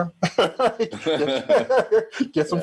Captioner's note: both laughing